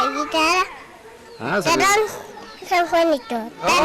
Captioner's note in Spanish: risa